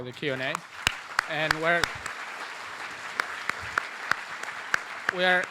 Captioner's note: applause